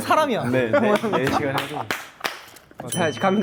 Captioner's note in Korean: 꺄르륵